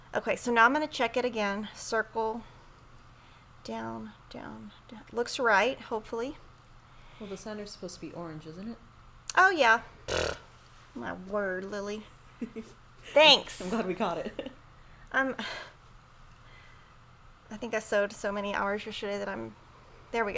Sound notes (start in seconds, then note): 10.1 trills lips; 12.4 giggles; 15.8 chuckles